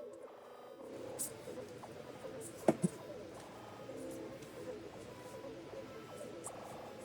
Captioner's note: crackling